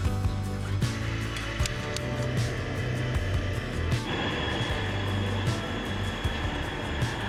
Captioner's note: engine revving